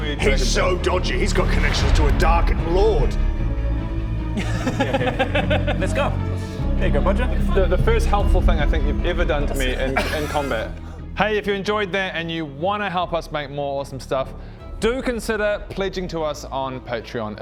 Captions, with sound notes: He's so dodgy he's got connections to a dark lord *laughs* Let's go! there you go Bodger The first helpful thing I think you've ever done to me in combat Hey if you enjoyed that and you wanna help us make more awesome stuff do consider pledging to us on Patreon